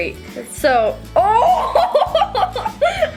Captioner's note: laughs; acoustic guitar music